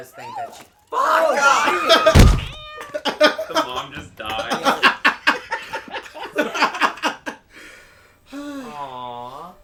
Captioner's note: laughter